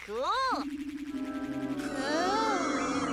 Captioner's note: disks whirring